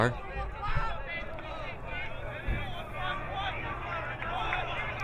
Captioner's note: crowd muttering